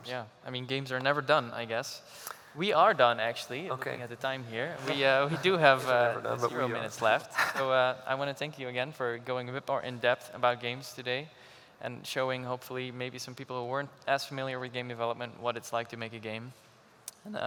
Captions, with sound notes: -Awesome. Games are never done, I guess. We are done, actually, looking at the time here. We do have a few minutes left. -[laughs]. -I want to thank you, again, for going a bit more in-depth about games today and showing, hopefully, maybe some people who weren't as familiar with game development what it's like to make a game.